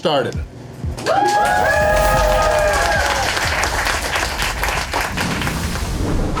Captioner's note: crowd cheering and applause